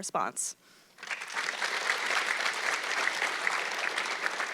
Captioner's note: audience clapping